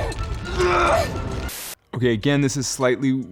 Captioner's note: grunting